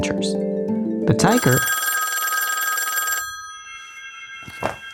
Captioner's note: phone rings